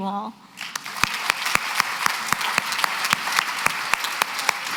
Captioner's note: applause